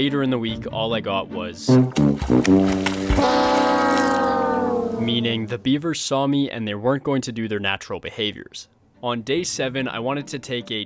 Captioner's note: tail Slaps